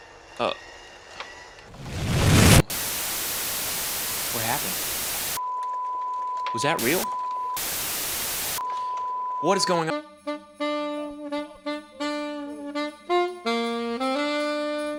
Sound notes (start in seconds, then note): 1.7 plane explodes, static; 7.5 static cuts to "no signal" tone